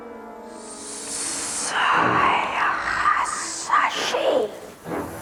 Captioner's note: Speaking Parseltongue